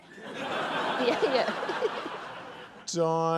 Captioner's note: laughter